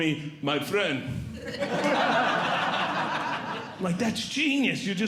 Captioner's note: audience Laughing